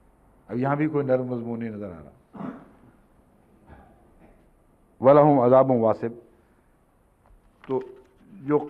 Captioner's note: Arabic